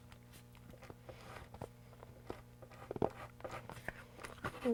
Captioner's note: pencil scribbling